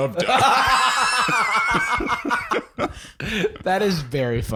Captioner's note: laughs; both laughing uproariously